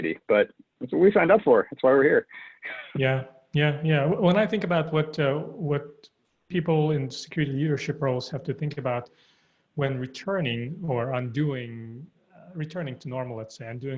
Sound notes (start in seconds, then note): 2.6 chuckles